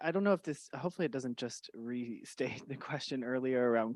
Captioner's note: chuckles